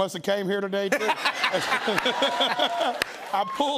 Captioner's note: laughter